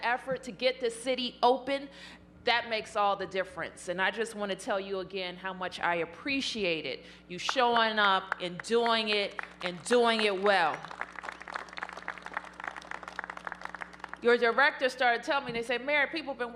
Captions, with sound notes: AN EFFORT TO GET THIS CITY OPEN, THAT MAKES ALL THE DIFFERENCE. AND I JUST WANT TO TELL YOU AGAIN HOW MUCH I APPRECIATE IT, YOU SHOWING UP AND DOING IT AND DOING IT WELL. [APPLAUSE] YOUR DIRECTOR STARTED TELLING ME, THEY SAID, MAYOR, PEOPLE